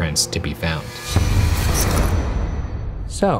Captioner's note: electrical buzzing